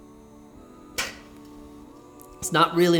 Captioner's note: scoffs